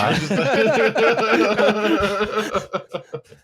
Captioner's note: laughter